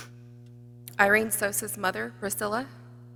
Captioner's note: none